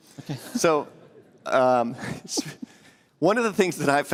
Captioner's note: laughter